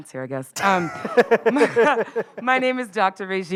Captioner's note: laughs